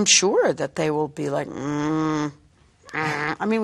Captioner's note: grumbling